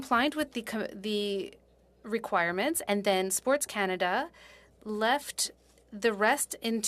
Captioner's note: speaking French